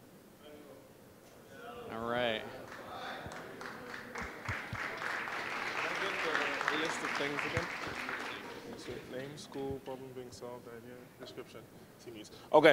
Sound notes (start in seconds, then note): 2.6 applause